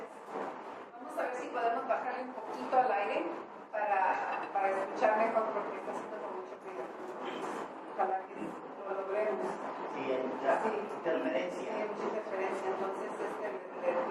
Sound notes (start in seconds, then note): 9.5 interference